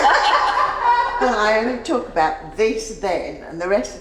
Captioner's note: laughing